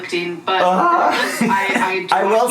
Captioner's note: groans